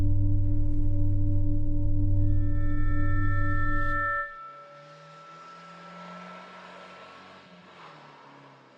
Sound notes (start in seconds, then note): 3.0 low humming continues; 4.5 car engine revving